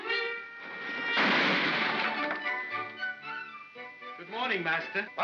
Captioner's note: whimsical music; loud bang